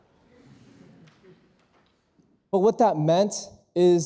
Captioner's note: audience chuckles